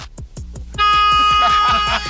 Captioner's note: honk